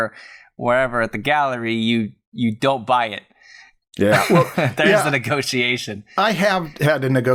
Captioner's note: laughter